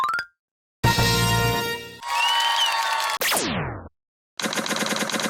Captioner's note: applause